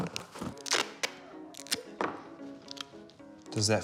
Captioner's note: tape crackles